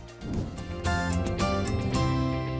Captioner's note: whoosh; whoosh